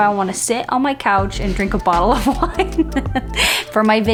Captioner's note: laughing